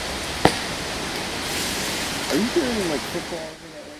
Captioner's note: wood knocks